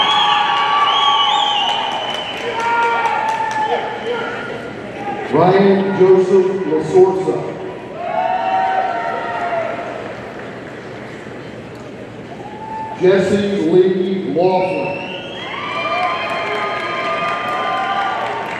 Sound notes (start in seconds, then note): 0.0 audience cheering and applauding; 7.9 audience cheering; 14.8 audience cheering